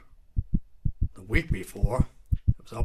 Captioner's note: heart beats